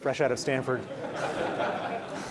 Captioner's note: laughing